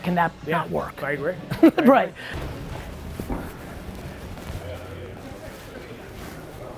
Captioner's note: laughs